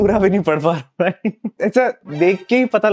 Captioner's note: laughing